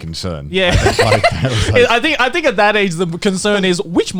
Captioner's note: laughs